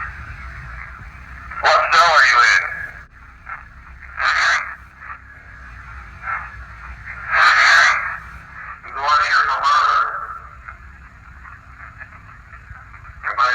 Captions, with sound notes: What cell are you in? (ghostly voice) Are you the robber?